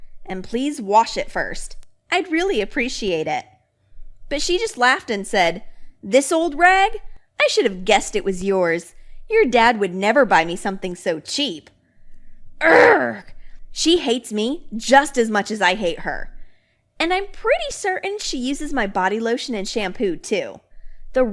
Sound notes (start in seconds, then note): 12.6 groans